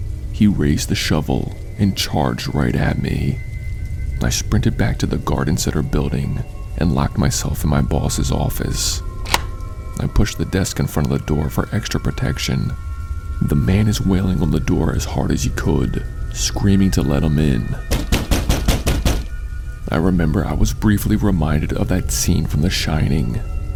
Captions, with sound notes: He raised the shovel and charged right at me. I sprinted back to the garden center building and locked myself in my bosses office. *Locking noise* I pushed the desk in front of the door for extra protection. The man is walling on the door as hard as he could. Screaming to let him in. *Door banging* I remember I was briefly reminded of that scene from 'The Shining.'